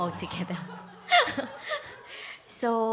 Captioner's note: congregation laughing